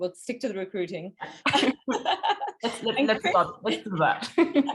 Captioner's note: laughing